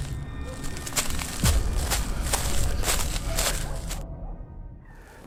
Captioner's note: foot steps running